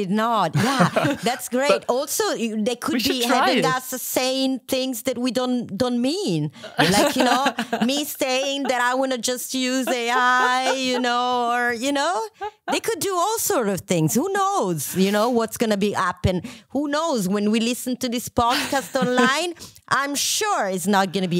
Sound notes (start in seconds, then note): 0.5 laughter; 0.6 laughs